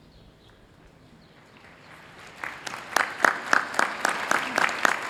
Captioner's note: applause